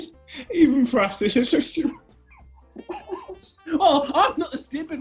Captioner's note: giggling